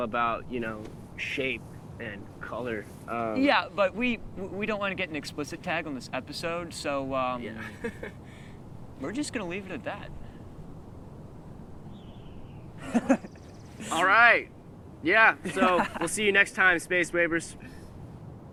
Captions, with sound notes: you know, shape and color. Uh... Yeah, but we, we don't want to get an explicit tag -on this episode, so, um... -Yeah. [laughs] We're just going to leave it at that. [Marvin laughs] All right, yeah, so we'll see you next time, Space Wavers.